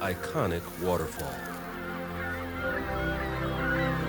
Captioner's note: birds cawing